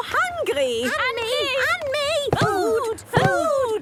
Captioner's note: calling out in turn